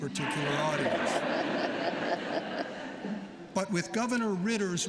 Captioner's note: laughter